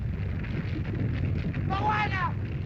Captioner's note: rumbling sound